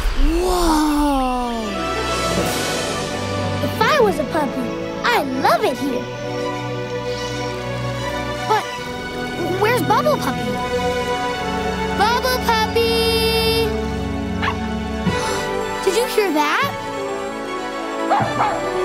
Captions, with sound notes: Whoa. If I was a puppy, I'd love it here. But, where's Bubble Puppy? Bubble Puppy! [barking] [gasping] Did you hear that? [barking]